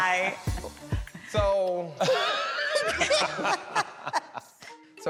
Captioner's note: laughter